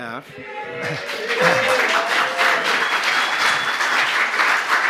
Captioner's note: cheering, applause